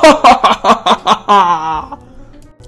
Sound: evil laugh

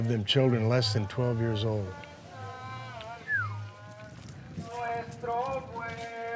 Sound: whistles; others join in singing; singing in Spanish

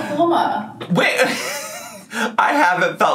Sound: laughs

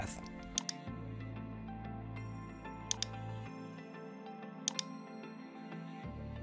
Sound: gentle instrumental music; mouse clicking

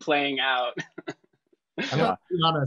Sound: laughs

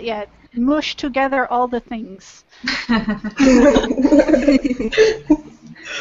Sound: laughter

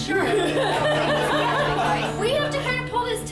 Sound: laughing

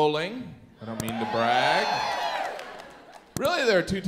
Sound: audience cheers

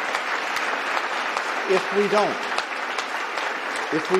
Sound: applause

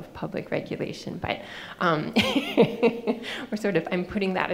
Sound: laughing

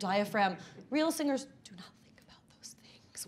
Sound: speaking faintly

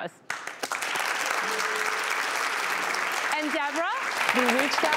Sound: audience applause

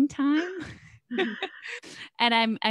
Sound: laughs

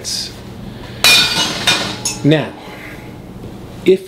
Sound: glass shattering

